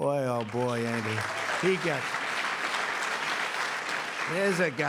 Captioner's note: applause